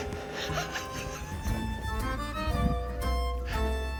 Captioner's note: laughing